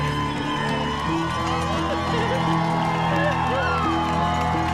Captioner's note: cheers and applause